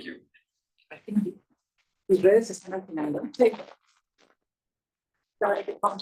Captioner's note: speaker speaking Spanish